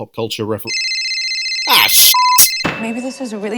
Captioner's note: ring